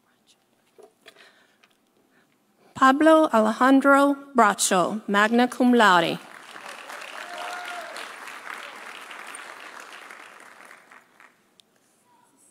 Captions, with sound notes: Pablo Alejandro Bracho, magna cum laude. (audience applauding) (audience cheering)